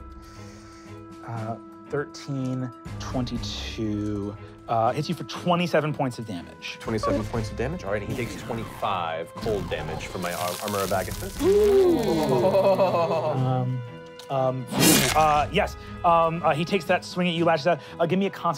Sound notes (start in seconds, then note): 11.4 players oohing; 14.7 slicing